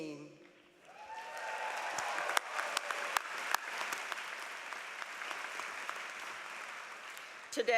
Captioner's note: applause